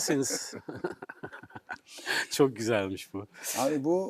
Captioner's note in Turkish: kahkaha